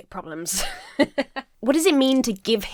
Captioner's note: chuckles